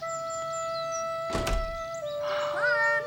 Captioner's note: door closes